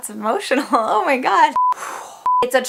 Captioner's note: exhale